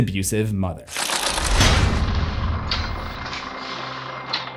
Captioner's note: impact